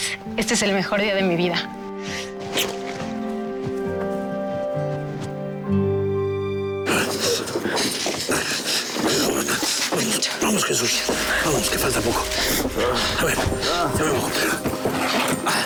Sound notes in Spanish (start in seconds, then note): 6.7 Quejidos; 13.4 Habla entre dientes